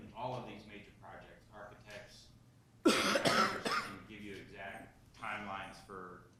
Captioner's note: person coughing